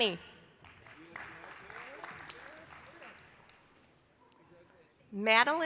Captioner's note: applause